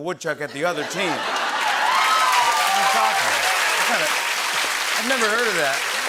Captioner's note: laughter, cheers, applause